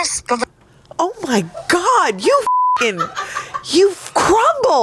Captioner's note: beep